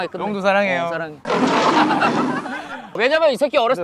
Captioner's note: laughing